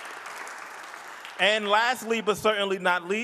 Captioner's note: audience applauding